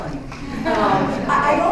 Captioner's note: laughter